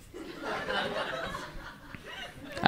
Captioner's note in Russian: зал смеется